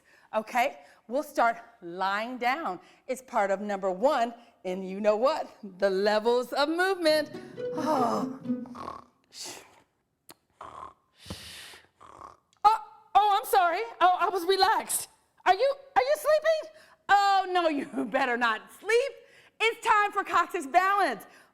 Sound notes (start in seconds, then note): 8.7 snoring